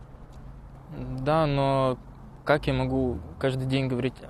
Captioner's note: in Arabic